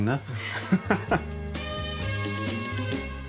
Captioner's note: they laugh